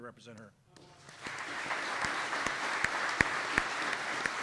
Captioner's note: audience clapping